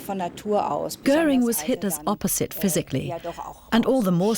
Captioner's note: speaking german